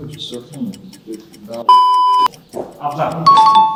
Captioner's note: beep